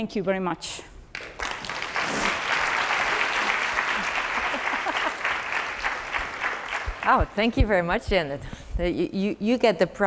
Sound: applause

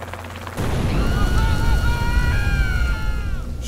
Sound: screams of Agony

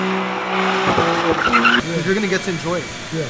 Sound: engine revving

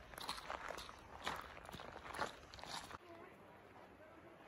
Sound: walking up a crunchy gravel pathway

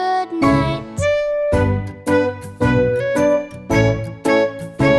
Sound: horns hooting lightly

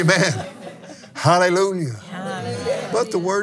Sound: laughs

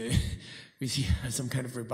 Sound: chuckling

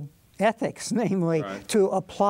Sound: laughs

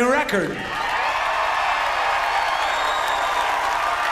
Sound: audience cheers

